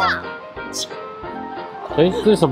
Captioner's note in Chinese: 咻～